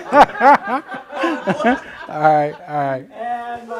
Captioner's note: laughter